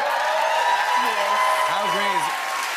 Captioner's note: cheers and applause